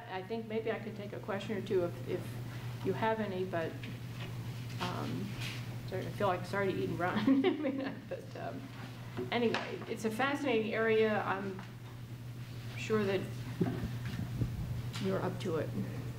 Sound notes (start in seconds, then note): 7.2 chuckles